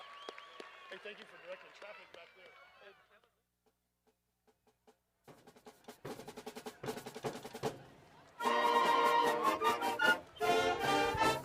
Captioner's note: cheers and applause